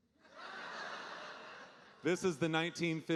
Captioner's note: audience laughing